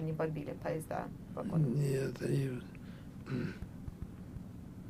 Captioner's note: clears throat